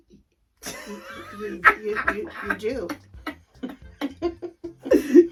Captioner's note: laughs